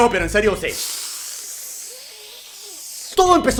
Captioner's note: deep breathing